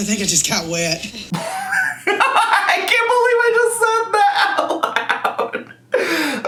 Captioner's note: laughs